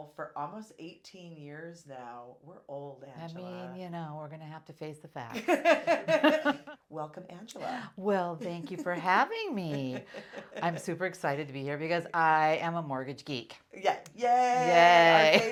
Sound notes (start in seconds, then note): 5.3 laughs; 14.7 laughs